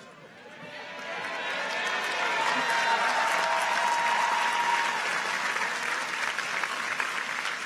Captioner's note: audience cheers; audience applauds